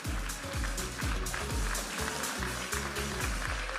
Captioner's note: audience applauding and cheering; upbeat music